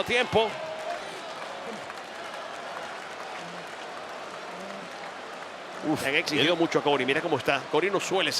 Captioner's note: applause